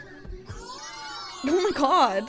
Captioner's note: slow music; show contestants cheering